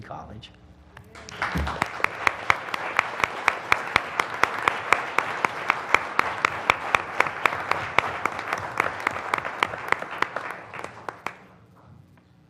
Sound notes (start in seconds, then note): 1.0 applause